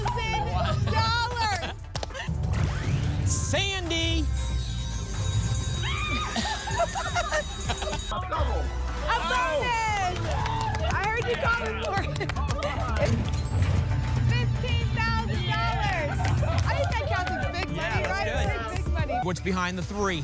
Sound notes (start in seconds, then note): 0.1 shrieks; 1.6 applause; 5.8 screams; 6.0 laugh